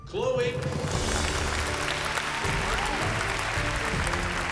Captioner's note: cheering and applause